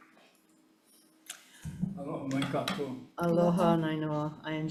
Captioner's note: speaks foreign language